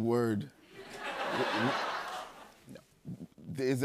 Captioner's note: laughter